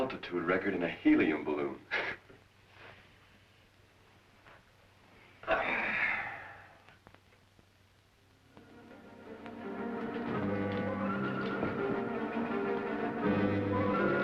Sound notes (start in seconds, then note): 3.4 chuckles; 5.4 Paul groans; 8.6 suspenseful orchestral music